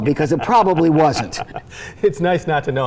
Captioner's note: laughing